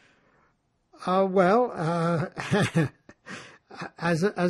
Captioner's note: laughing